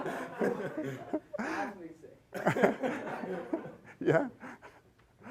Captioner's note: laughing